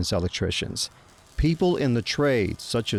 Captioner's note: sparks crackling